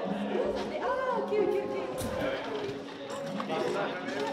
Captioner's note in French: brouhaha de voix